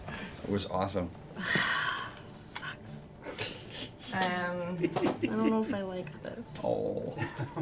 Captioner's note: sighs